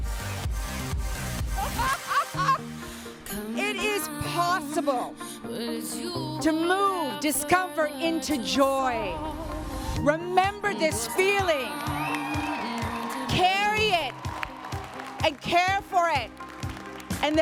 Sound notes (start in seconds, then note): 2.5 upbeat music continues; 11.0 attendees cheering and applauding; 11.1 upbeat music continues